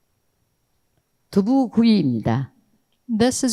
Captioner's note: speaking in foreign language